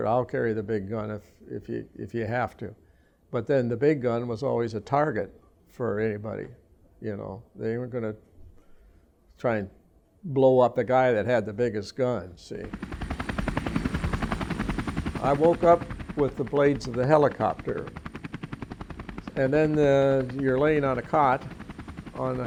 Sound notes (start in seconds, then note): 13.6 helicopter engine